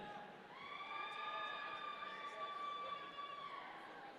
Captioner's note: audience cheering